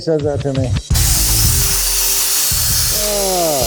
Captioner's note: power tool blasting